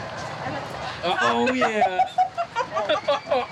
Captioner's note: laughing